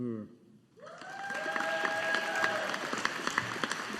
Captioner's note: audience applauding